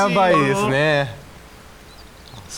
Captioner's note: tweet tweet